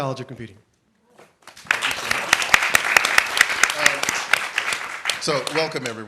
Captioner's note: applause